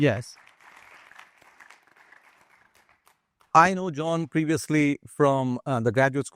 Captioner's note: applause